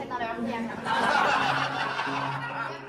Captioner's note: laughs